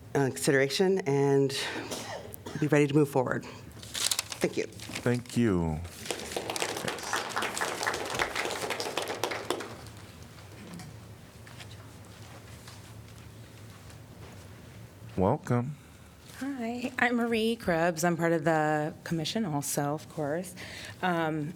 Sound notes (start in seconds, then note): 5.9 applause